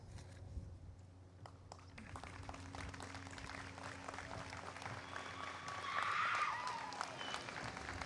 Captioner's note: applause